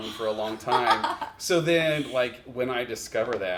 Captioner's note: chuckles